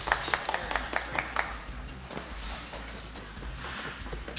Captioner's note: Bradley clapping